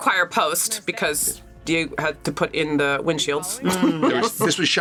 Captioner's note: laughs